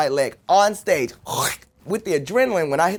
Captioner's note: cutting sounds